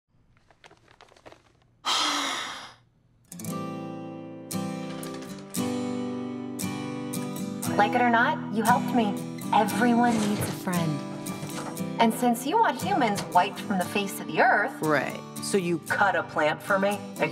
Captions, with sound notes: (Harley Quinn sighs) (thoughtful acoustic music) - Like it or not, you helped me. Everyone needs a friend. And since you want humans wiped from the face of the Earth-- - Right, so you cut a plant for me?